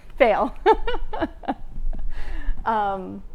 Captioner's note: laughs